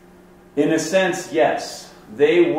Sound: voiceover

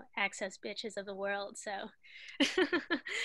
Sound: laughter

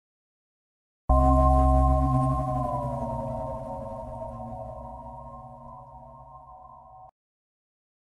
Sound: simply spooky sound

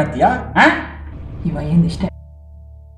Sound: low voice

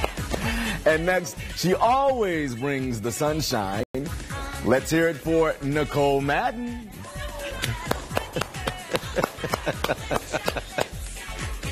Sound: laughter

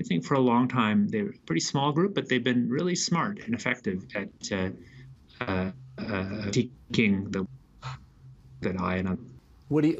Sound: transmission difficulties

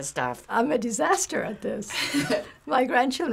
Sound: Finebros laughs

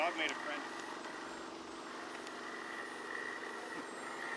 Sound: machinery engine revs

